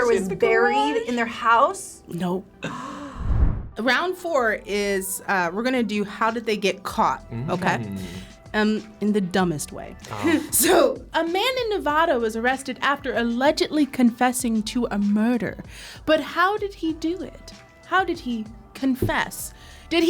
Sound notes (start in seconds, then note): 2.6 gasps; 3.1 animation whooshes; 10.1 chuckles